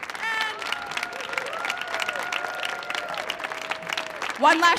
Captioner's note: audience applauding